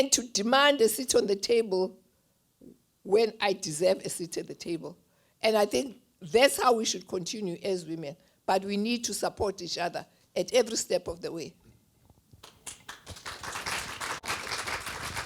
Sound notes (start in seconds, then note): 12.4 applause